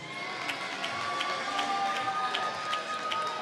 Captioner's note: applause